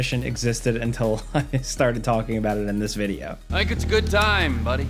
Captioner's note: chuckles